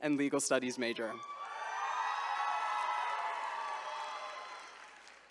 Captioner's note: attendees cheering